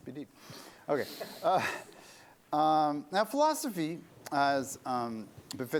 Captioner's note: laughter